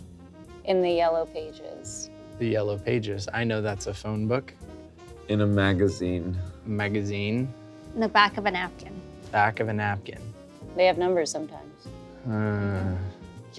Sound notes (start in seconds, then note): none